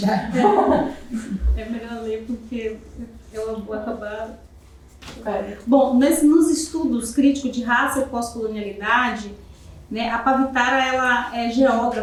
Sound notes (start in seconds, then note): 0.0 chuckling; 2.3 speaking portuguese